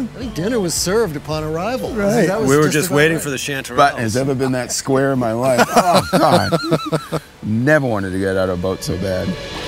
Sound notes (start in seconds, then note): 5.4 laughing